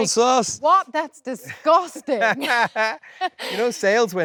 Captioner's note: both laughing